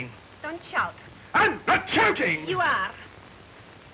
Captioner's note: shouting